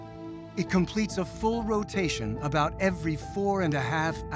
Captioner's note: none